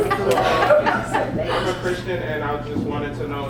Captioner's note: laugh